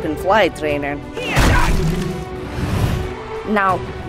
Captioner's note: person yelling